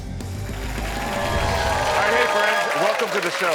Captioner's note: audience cheering